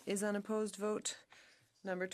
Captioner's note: speaking French